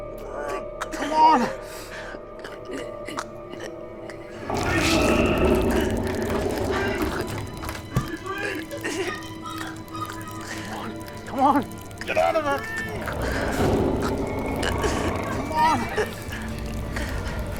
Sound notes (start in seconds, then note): 4.0 moist sounds; 8.2 shouting